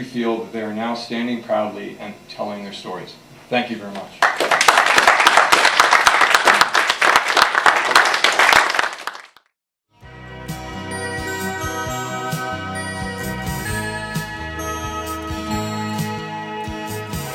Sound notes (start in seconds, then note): 4.2 applause